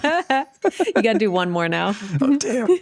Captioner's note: laughs